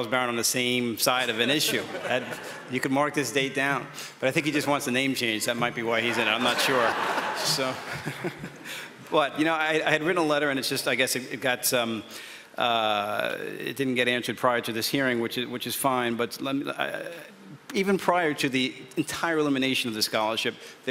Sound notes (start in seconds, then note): 6.0 audience members chuckle; 6.1 chuckles